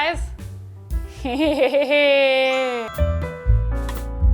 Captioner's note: laughing; gentle piano music